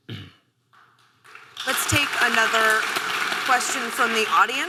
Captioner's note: audience applause